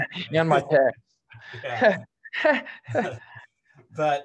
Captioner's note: laughter